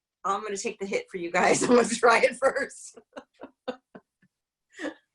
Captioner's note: laughs; laughs